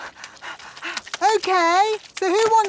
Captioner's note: panting